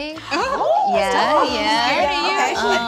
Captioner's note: gasps